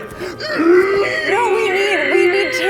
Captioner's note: pained howling